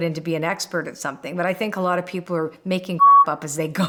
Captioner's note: beep